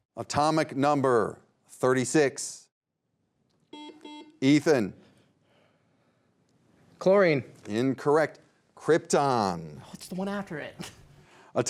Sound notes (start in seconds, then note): 3.7 beep; 10.8 chuckles